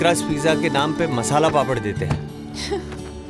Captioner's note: Door closes; Gauravi giggling